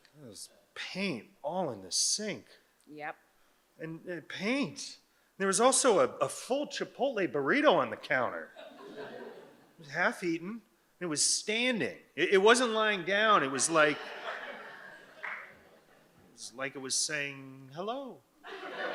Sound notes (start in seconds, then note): 13.3 audience laughing; 18.4 audience laughs